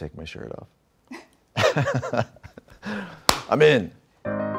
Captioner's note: Ryan laughing; interviewer laughing